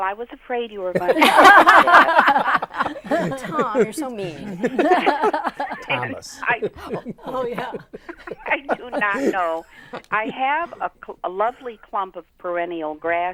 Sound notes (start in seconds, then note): 2.9 laughing; 8.0 laughing